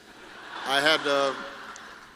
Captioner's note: laughter